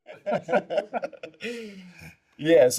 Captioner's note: laughter